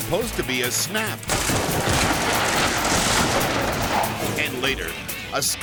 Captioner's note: yacht crumbling